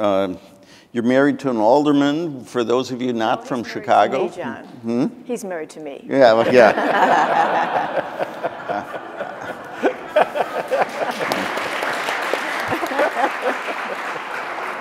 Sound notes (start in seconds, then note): 6.3 audience laughing; 11.3 audience applauding